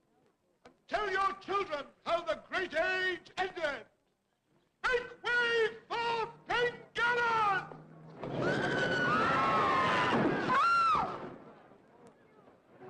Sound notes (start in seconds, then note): 8.2 screaming; 10.0 thud